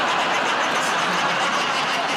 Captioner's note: laughter